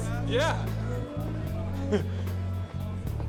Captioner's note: laughs